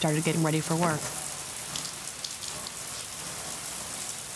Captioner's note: rushing water